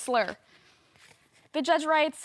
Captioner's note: rustling